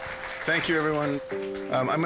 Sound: gentle music; audience applause

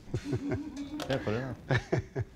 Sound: laughing

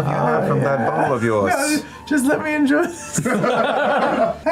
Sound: laughter

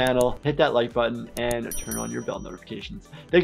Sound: bell dings

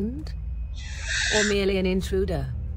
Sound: pained inhale

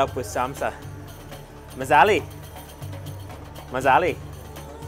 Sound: in foreign language

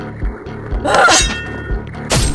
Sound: Geno screams

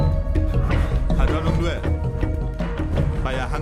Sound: Malay Language

